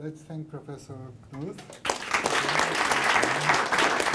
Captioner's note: applause